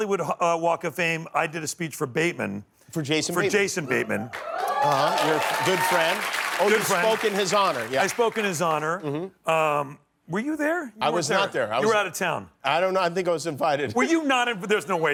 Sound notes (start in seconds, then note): 7.0 applause